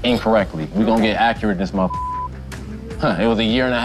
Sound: beep

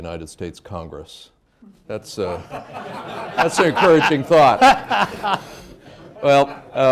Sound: laughter

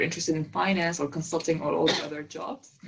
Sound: cough

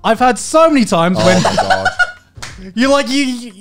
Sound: laughs

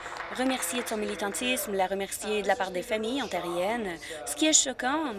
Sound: applause

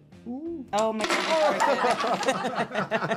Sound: bricks clattering; people laughing

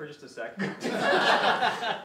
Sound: laughter from the room

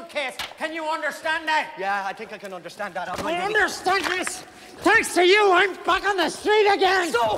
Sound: none

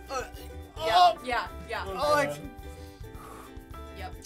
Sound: gagging; exhaling

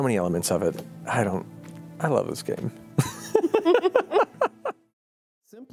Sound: laughing

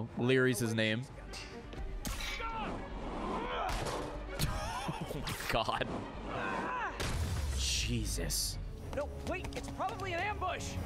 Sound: laughs

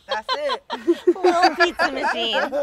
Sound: everyone laughing

